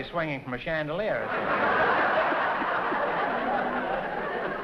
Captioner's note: laughter